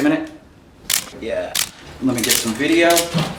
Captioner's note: camera clicking